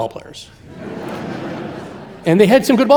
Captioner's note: audience laughing